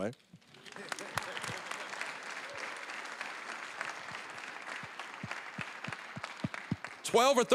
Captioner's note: applause